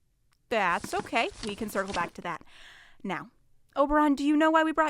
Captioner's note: more shuffling of papers